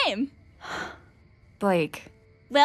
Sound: sighs

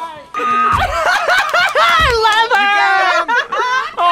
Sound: laughs; both laugh

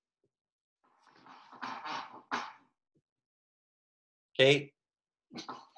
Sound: chair squeaking

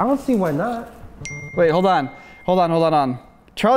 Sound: phone chimes

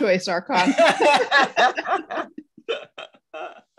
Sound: all laugh

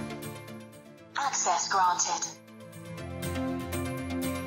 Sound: bright music; automated Voice; bright music

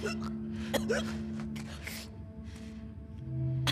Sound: gasps

